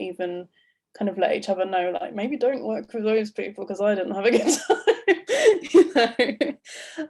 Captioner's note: laughs